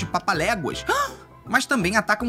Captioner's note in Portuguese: som de surpresa